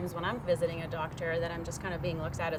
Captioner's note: none